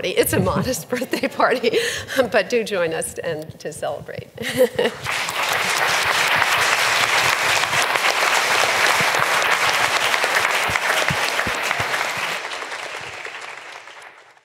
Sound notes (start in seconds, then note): 4.1 audience claps